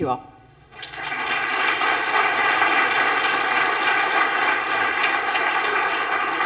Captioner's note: applause